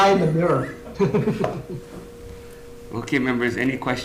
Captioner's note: laugh